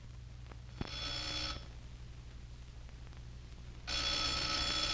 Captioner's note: telephone ringing